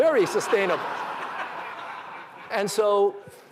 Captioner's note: laughter